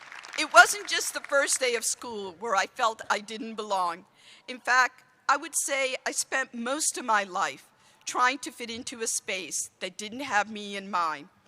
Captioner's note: applause